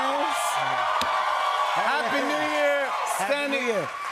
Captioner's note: cheers and applause